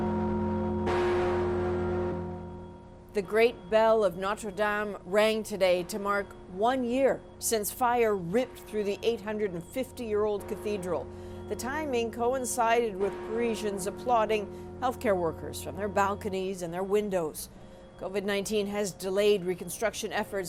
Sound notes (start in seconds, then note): 1.2 bells tolling